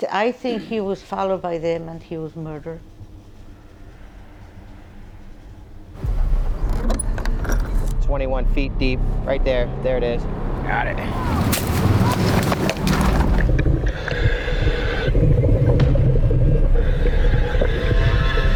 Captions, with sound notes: - I think he was followed by them and he was murdered. (eerie music) (vehicle droning) (latch squeaking) - 21 feet deep, right there, there it is, got it. (leaves rustling) (eerie music continues) (water bubbling)